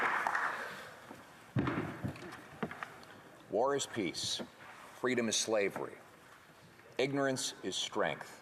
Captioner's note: some Applause